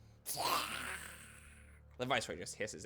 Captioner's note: hisses